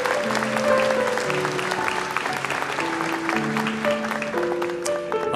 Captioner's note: applause